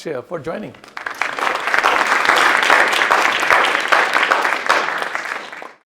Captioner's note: audience applauding